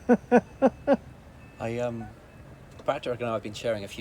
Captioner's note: laughs